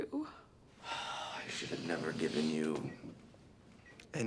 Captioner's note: sighs